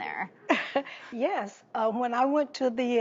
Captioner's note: chuckles